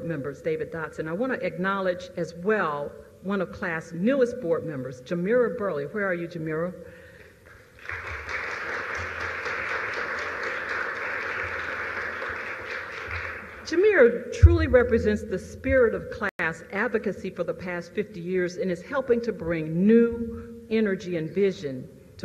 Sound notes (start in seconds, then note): 7.4 applause